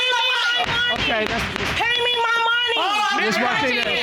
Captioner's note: gavel banging